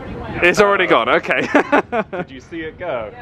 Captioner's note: laughs